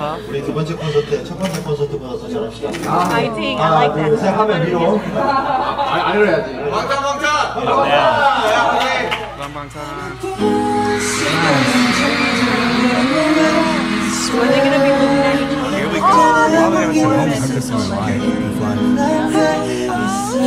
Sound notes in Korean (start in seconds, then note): 5.2 웃음